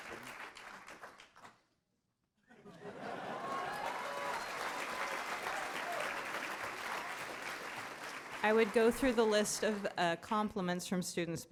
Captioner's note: laughter